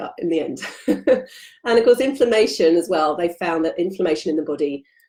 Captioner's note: giggling